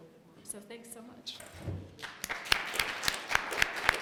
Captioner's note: applause